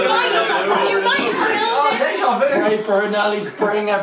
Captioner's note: taps